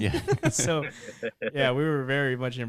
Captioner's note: laughing